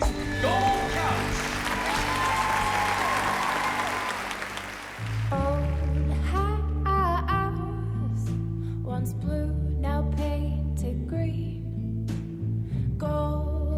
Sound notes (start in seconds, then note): 0.0 cheering and applause; 7.2 singing